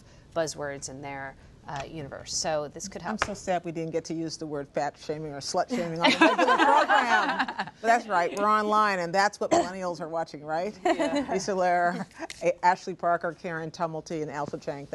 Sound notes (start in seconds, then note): 6.0 laughter